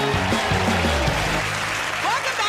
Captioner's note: cheers and applause